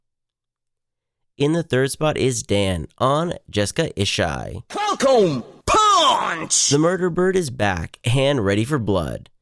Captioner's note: falcon punch sound